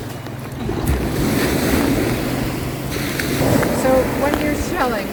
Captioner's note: surf roars